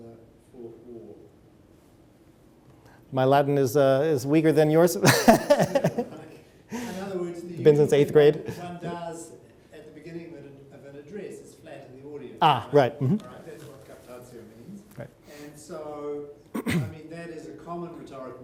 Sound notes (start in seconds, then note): 5.0 laughs